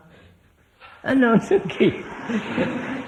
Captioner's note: laughter